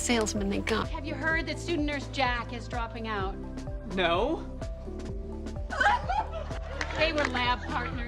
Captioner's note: sobs